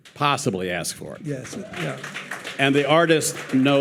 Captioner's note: audience applauding